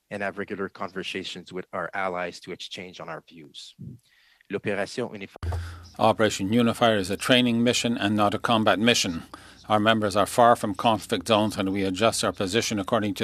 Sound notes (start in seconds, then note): 9.1 speaking French